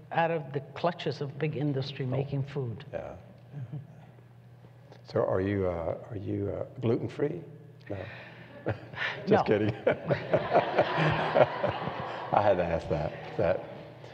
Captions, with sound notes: out of the clutches of big industry making food. >> So, are you are your gluten free? >> No. >> Just kidding [laughs]. I had to ask that.